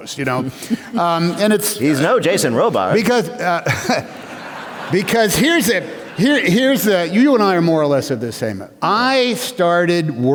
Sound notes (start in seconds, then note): 3.4 laughter